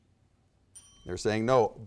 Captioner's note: bell chimes